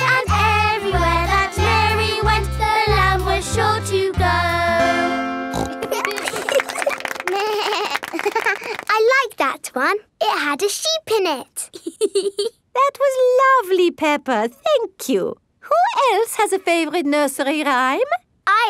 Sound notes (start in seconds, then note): 5.5 snorts; 5.6 laughing; 7.3 bleats and laughs; 11.7 laughs